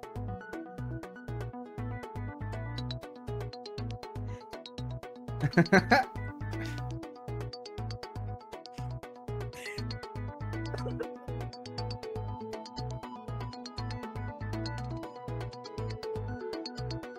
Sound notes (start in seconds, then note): 0.1 upbeat music; 5.4 laughing